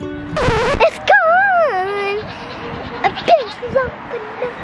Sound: bright music; record scratches

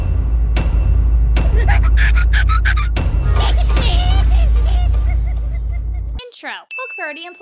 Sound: cute Eggman creature laughing and making excited noises

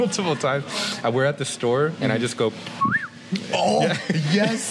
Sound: whistle sound

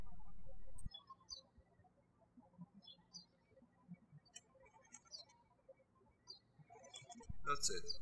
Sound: birds chirping

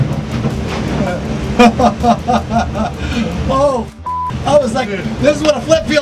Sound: laughs

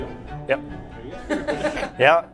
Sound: laughing

